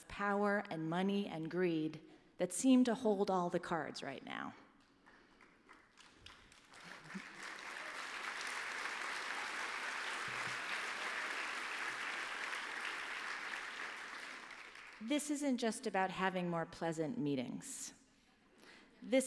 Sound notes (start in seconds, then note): 6.3 applause